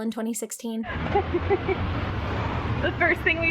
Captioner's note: laughing